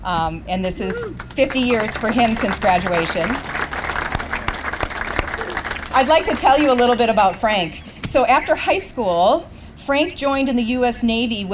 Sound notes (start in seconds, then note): 0.8 applause; 3.4 claps